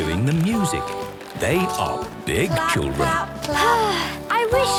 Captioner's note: Belinda sighing